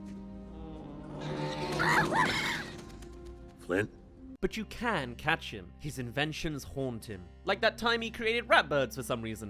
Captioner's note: Groans* Flint?